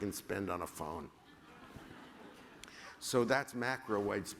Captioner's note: laughter